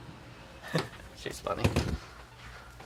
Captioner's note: chuckles